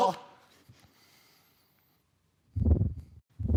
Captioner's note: soft breathing; whoosh